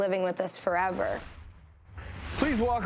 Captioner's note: swoosh